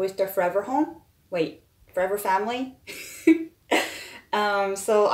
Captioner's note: laughs